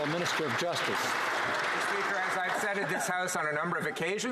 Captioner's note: some Applause